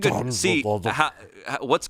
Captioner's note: grumbles